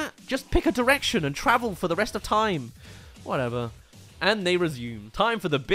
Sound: gasp

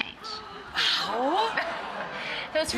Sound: everyone gasps

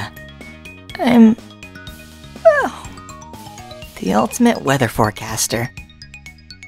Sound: yawn

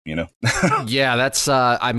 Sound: laughs

